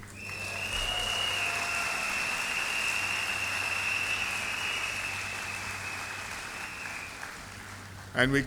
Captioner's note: applause